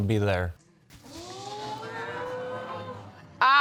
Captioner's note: audience exclaiming